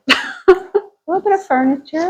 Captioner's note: laughing